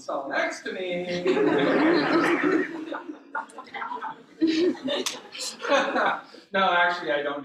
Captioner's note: laughter